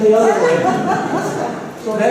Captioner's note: laughter